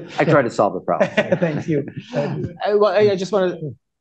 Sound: laughter

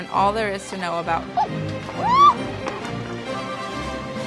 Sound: gasping

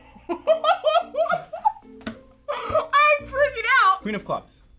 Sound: laughs

